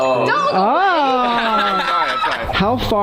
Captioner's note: surprised sounds